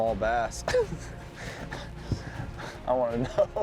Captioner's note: chuckling